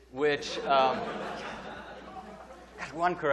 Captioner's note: audience laughing